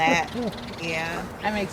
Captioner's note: laughs